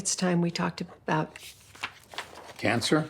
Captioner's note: page turns